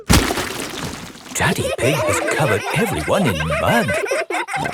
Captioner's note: all laughing